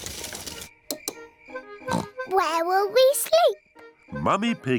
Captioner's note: oinks